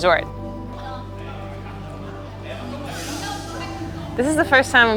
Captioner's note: overlapping chatter